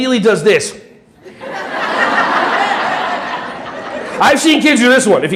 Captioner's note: audience laughing